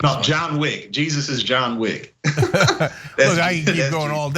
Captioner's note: laugh